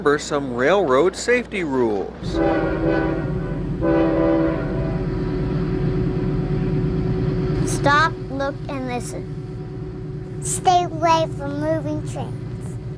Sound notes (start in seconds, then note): 2.2 train hoots